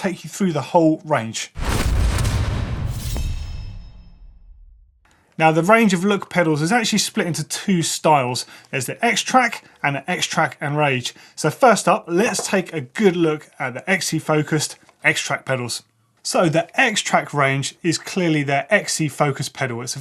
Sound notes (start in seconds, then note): 1.5 bang; 1.6 whooshing